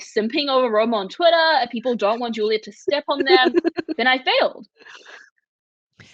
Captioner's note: laughing